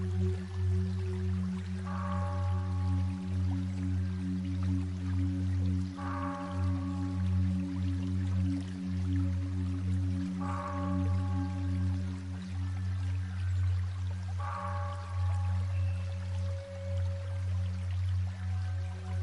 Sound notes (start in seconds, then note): 1.3 water flowing